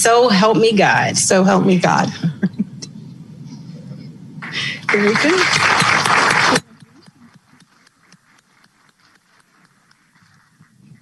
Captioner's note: applause